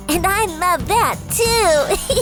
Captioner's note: laughs